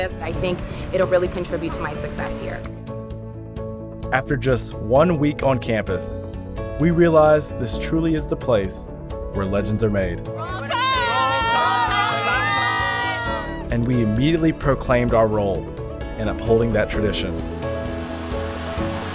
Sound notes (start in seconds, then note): 13.1 cheering